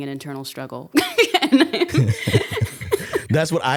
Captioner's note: laughing